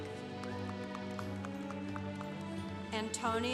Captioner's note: congregation applauding